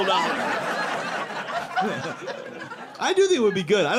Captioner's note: audience laughing